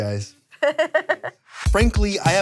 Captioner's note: laughs